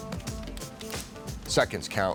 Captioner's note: fire crackling